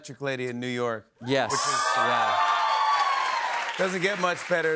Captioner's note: cheers and applause